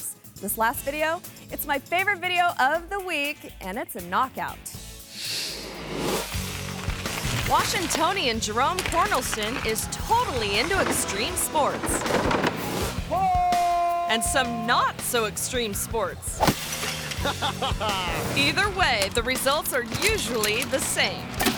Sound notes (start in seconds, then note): 6.2 upbeat rock music; 11.8 skateboard clattering; 13.1 biker howling; 16.4 golf club thuds; 16.4 glass shattering; 17.0 videographer laughs; 21.3 object clatters